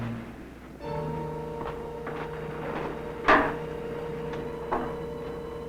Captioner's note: dramatic music; footsteps descending